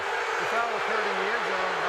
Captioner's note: booing